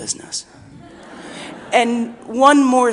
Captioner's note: audience laughing